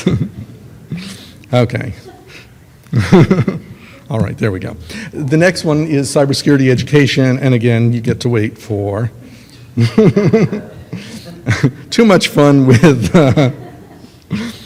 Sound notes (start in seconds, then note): 2.0 laughs; 10.1 laughs